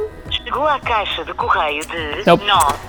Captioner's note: someone speaking in Portuguese on phone